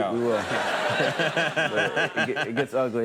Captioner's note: audience laughing